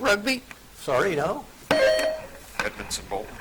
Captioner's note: buzzer dings